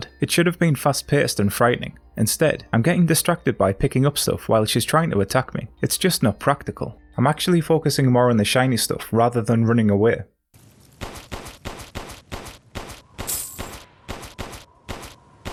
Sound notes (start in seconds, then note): 10.9 gunshots; 13.2 money sound effect